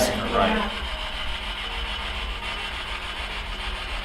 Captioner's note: static buzzing